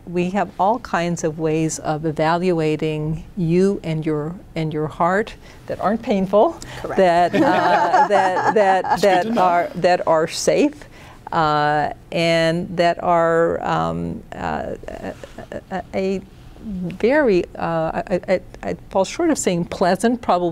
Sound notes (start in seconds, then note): 6.6 laughing; 13.9 stuttering